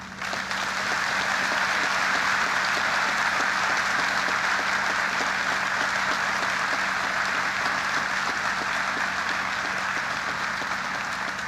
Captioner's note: applause